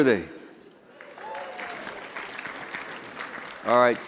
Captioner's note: applause